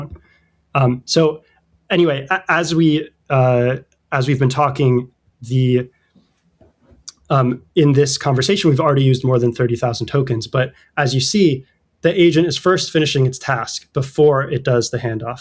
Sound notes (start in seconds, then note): 3.0 uh